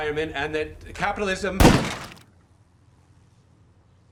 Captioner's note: gunshot